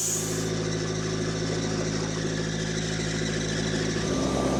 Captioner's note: machine rumbling